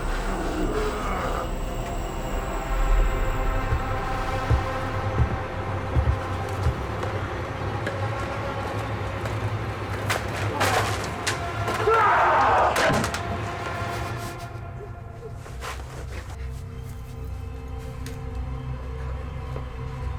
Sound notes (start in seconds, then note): 0.2 Meathook Man growling; 3.1 intense music; 10.8 intense music continues; 12.3 Meathook Man shouting; 15.4 Jordyn whimpering; 17.4 tense music